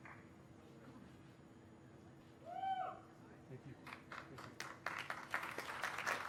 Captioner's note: cheers and applause